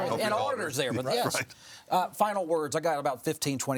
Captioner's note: all chattering